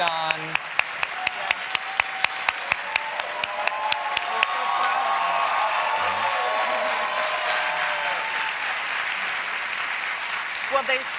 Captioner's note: applause; cheers